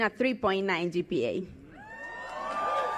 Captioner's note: cheers